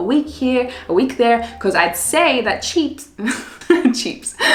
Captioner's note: laughs